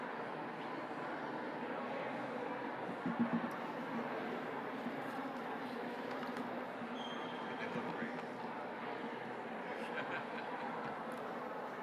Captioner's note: chatter resumes